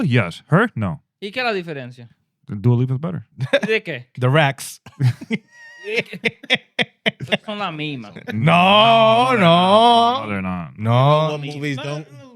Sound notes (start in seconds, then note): 6.6 laughing